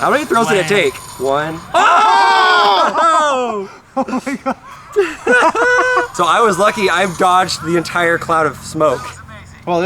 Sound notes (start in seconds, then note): 5.4 laughs